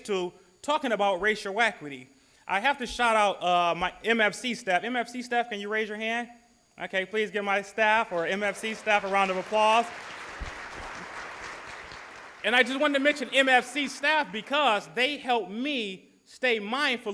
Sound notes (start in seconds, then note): 10.1 applause